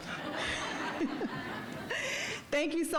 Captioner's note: audience laughing; speaker laughing